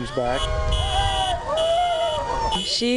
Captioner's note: sirens ringing & car honking